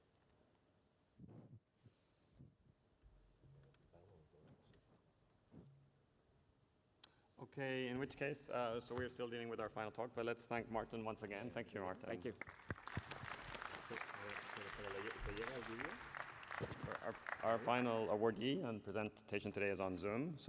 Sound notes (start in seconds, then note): 12.3 applause